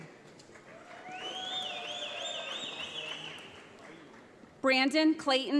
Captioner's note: audience applauds